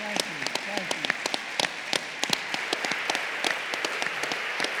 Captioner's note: applause